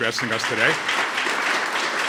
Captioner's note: applause